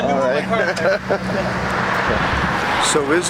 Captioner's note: laughter